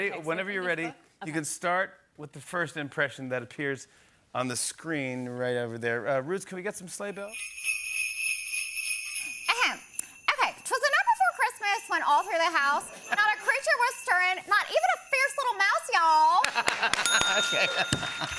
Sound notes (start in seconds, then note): 7.9 sleigh bells jingling; 16.4 laughing; 17.0 bell dings